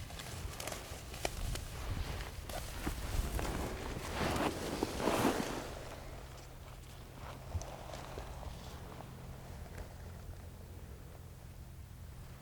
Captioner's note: natural noises